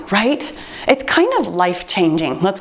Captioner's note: timer beeps